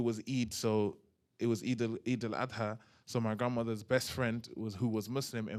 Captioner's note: non-english